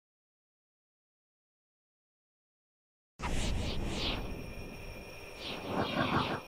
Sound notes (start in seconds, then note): 3.3 air whooshing